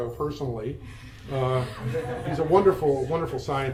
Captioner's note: attendees laugh